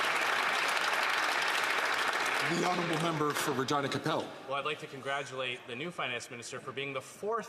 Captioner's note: some Applause